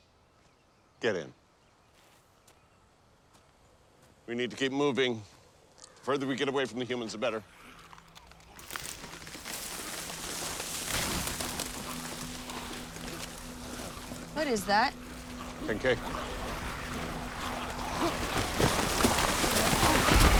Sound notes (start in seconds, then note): 7.4 distant snarling; 8.1 rustling, crunching; 15.7 snarling